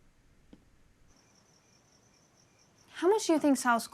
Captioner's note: crickets chirping